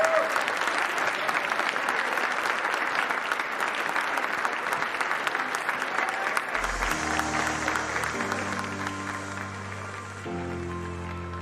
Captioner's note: applause